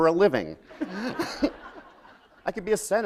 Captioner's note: laughter